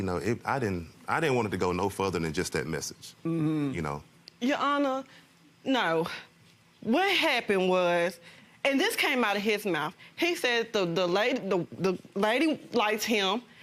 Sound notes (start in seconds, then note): none